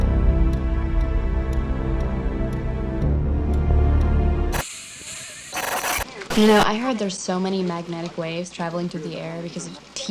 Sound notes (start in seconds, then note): 0.0 ominous Music; 5.1 static and muffled horse neigh